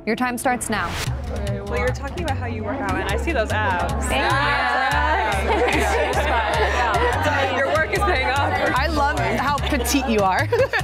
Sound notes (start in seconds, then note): 5.8 women laughing